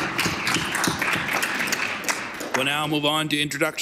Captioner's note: applause